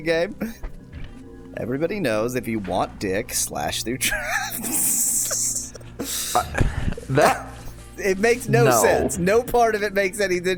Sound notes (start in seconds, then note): 4.0 laughs